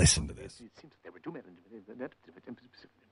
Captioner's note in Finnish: kuiskaa